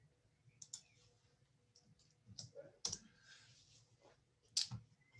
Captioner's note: mouse clicking